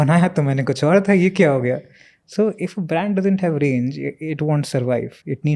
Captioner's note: speaks in Hindi